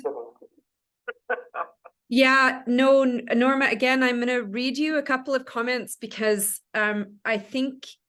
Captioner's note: laughs